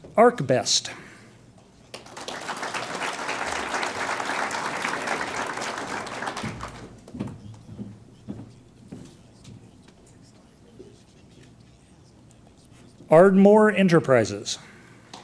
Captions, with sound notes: ArcBest. (audience applauds) Ardmore Enterprises.